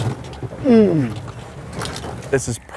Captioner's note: grunts